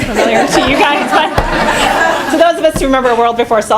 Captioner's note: laughing